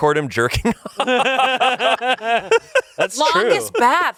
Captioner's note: laughs